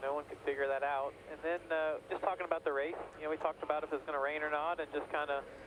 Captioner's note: radio